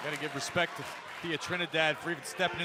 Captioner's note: cheers and applause